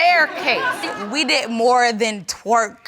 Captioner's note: chuckling